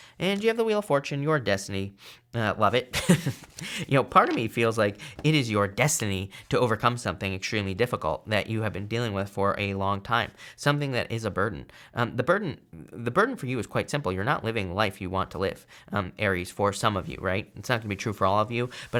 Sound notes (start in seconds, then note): 2.9 chuckles